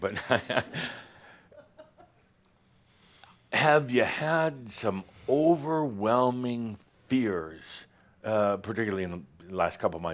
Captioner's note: Adamus chuckles